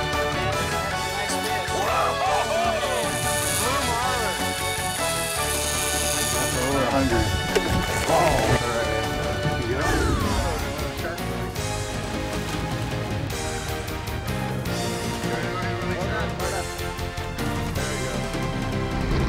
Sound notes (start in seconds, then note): 4.7 fishing line whirring